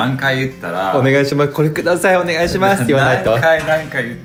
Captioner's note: laughs